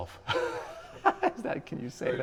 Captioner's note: laughs